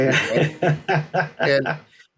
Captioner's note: laughing